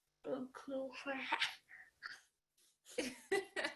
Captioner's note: laughing; son laughing